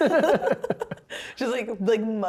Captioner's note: laughing